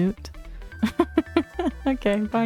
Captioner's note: laughs